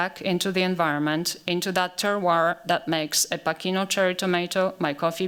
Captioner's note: french